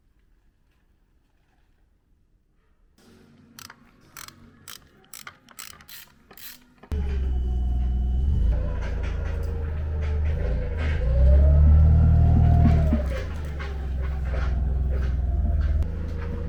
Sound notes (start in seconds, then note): 11.6 forklift noises